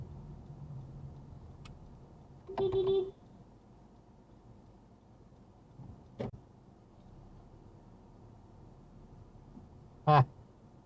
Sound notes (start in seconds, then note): 2.5 beepbeepbeep